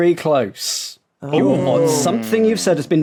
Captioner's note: guessers murmur